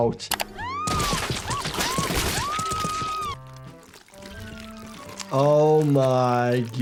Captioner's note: Giggles screaming; blood splattering